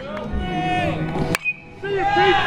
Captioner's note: clapping; bat hits ball